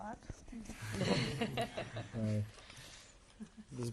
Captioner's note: laughter